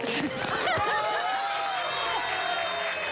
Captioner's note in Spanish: Risas; Gritos y exclamaciones